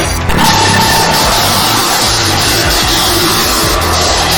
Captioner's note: lasers blasting